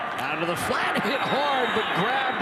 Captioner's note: referee blows whistle